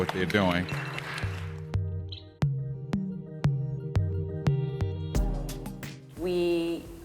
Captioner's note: applause